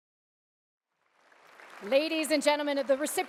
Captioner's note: audience applause